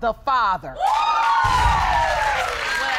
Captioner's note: audience exclaiming